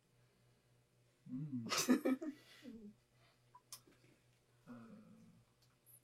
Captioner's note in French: rires